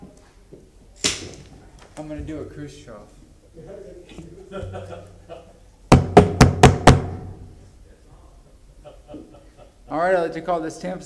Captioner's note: sounding gavel